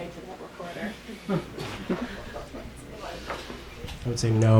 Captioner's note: audience chuckles